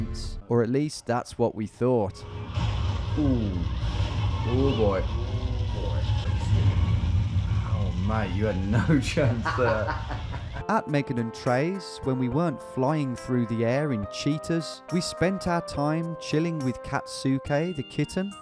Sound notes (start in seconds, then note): 2.2 siren blaring; 8.6 laughing